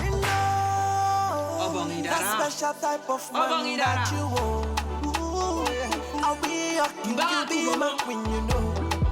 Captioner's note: speaking African dialect